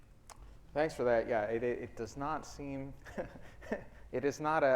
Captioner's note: laughs